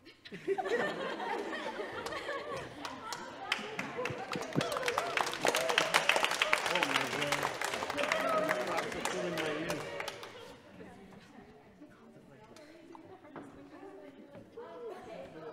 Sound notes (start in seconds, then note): 0.1 choir laughing; 4.2 choir clapping